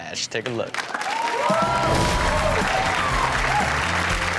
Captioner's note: audience cheers